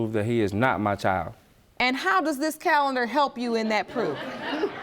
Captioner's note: audience laughing